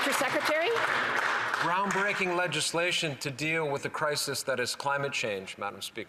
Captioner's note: applause